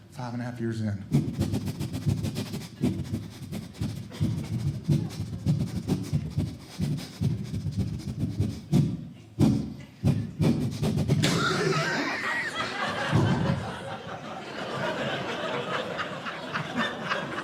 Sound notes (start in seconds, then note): 1.7 sniffing; 11.2 coughing; 14.0 audience Laughing